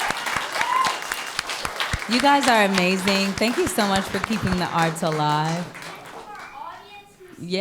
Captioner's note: applause